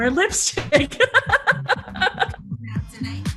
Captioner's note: laughs